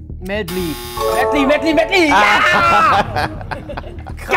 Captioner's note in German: Lachen